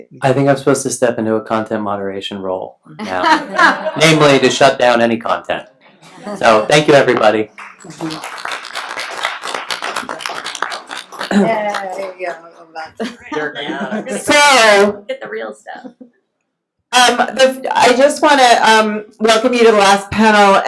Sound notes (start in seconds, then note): 3.1 laughs; 6.3 laughs; 7.5 applauding